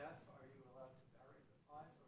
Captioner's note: faintly speaking